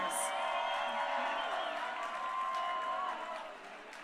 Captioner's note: crowd cheering